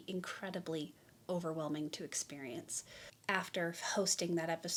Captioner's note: none